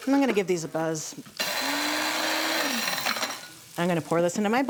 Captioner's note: grinder whirring